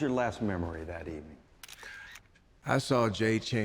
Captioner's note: camera click sound